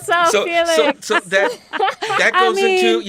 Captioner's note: laughter